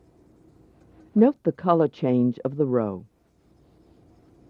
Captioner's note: voiceover